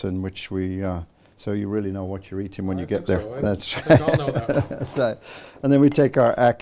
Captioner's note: laughing